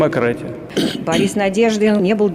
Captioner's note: 'coughs'